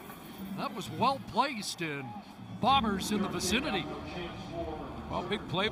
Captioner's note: whistle